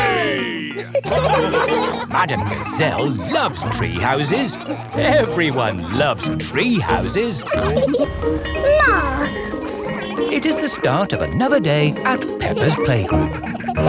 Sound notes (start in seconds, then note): 1.6 laughing; 8.0 bell ringing